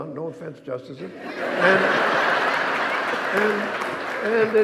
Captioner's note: audience laughing